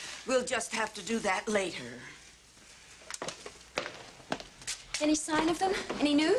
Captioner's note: none